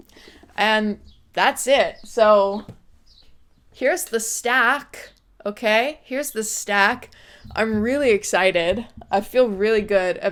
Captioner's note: thud